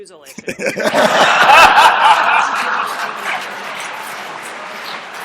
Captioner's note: laughter